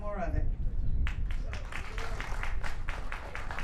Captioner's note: applause